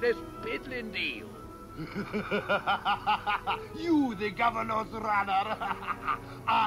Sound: laughing

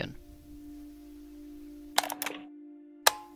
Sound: tape STOP. Tape START

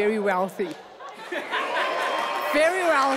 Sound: people laughing

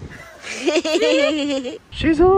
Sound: laughing

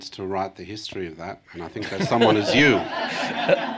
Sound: laughter

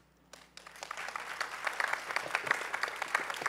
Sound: applause

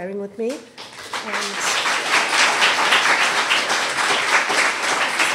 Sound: audience applauding

